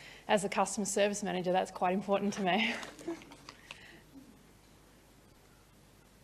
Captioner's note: laughs